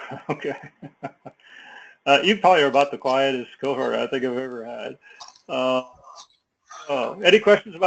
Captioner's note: laugh